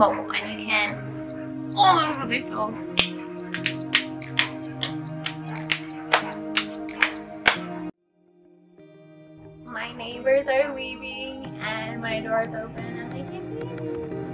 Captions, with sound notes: ..and you can.. *dogs start barking*..*clapping* My neighbors are leaving and my door is open and they can see meee..